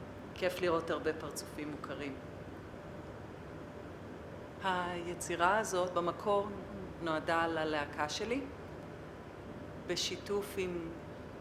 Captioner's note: non-english speech